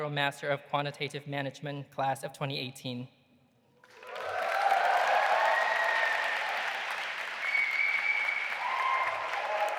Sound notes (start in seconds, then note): 3.8 audience applauding and cheering